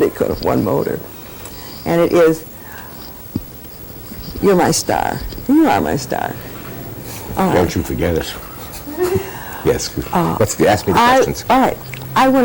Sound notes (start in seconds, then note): 8.6 laughter